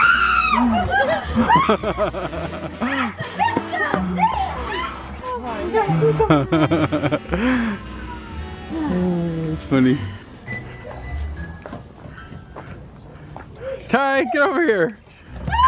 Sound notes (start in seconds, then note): 0.0 screaming; 6.9 laughing